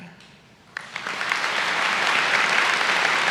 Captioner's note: applause